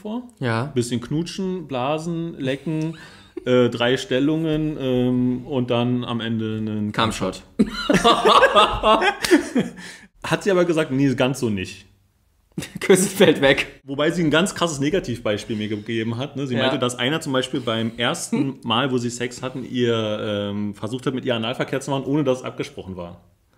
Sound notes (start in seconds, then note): 7.7 laughs